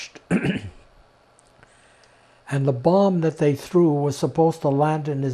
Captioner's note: clears throat